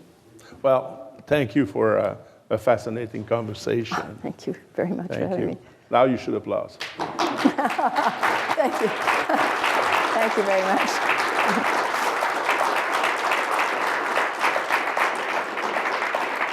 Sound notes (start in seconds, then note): 7.2 laughing; 11.4 applause